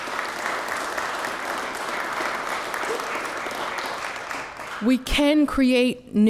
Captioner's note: applause